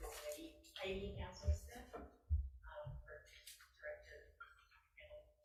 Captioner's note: speaks faintly